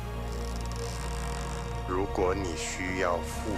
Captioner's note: galley creaking